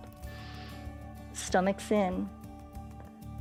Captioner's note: inhales